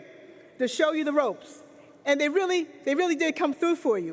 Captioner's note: none